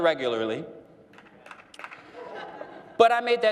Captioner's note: one person clapping